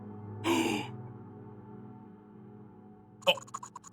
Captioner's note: Skull gasps and stammers